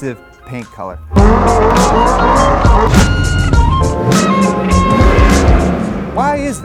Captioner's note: hip hop beat; engines revving